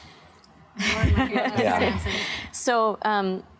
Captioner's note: laughter